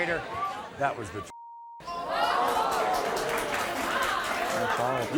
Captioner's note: audience gasping; audience clapping